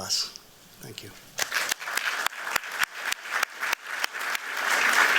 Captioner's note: applause